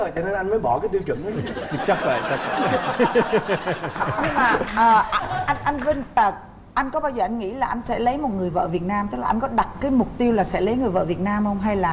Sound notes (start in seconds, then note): 1.5 laughing